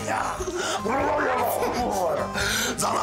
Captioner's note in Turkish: Kıkırdamalar